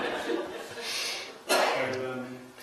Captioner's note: laughter